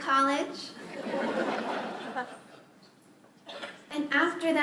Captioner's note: laughter